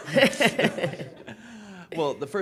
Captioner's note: laughing